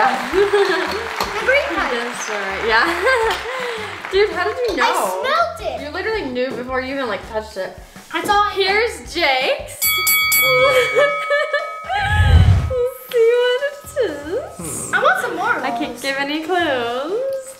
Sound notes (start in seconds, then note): 0.0 crowd clapping; 2.6 laughing; 9.8 fighting bell rings; 10.5 laughing